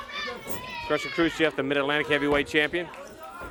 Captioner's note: bell rings